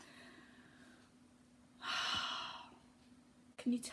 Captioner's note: exhales